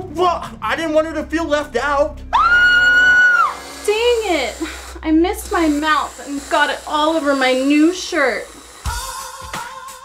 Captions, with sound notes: Well I didn't want her to feel left out! (girl shrieks) Dang it. I missed my mouth and got it all over my new shirt.